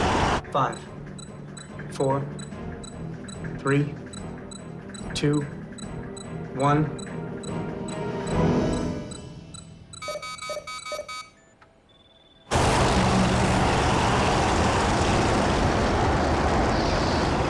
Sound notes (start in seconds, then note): 9.6 machine beeps; 12.6 roars